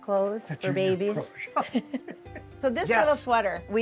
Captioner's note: laughs